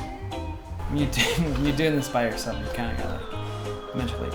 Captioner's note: laughs